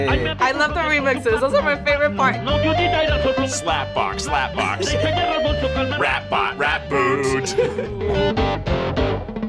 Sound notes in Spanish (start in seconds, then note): 7.5 riendo